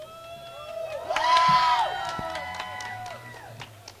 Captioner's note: crowd cheering